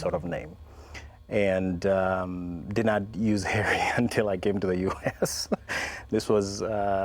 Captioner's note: laughs